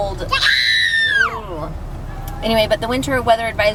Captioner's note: screaming